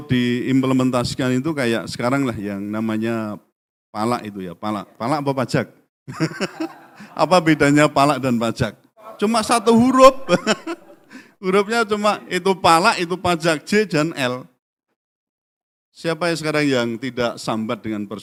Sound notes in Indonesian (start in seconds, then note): 6.1 tertawa